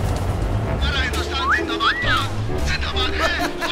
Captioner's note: flirty whistle; creepy laugh